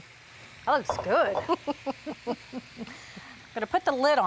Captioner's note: both laughing